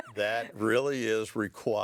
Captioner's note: laughing